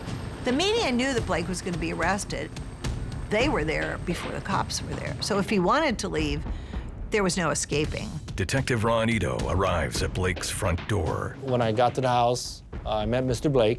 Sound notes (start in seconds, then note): none